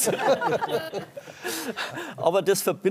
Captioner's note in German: Lachen